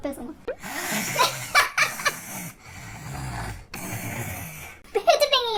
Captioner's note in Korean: 드르렁 코고는 소리